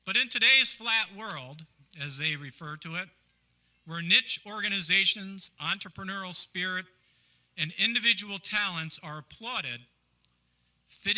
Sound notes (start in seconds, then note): none